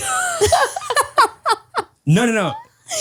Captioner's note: all laugh